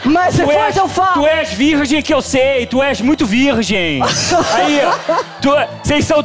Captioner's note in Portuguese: sotaque carioca